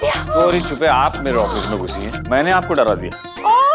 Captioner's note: Panting continues